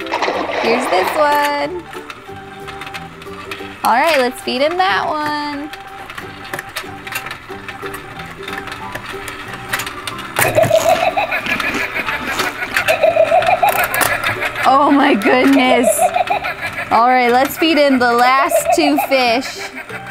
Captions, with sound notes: (water splashes) Here's this one. Alright, let's feed him that one. (shark laughs) Oh my goodness. Alright, let's feed him the last two fish.